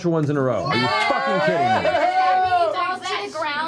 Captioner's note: cheering